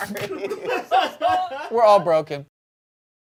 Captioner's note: everyone laughs